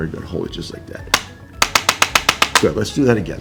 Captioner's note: instrument clicking